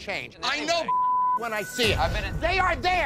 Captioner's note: beep